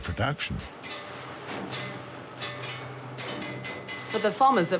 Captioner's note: banging tools